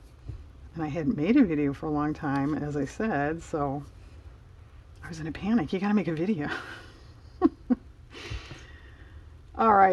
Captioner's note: laughs